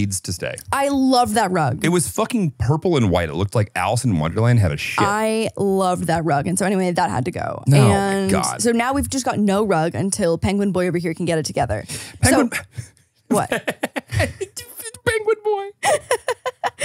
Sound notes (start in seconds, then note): 4.4 laughs; 13.3 laughs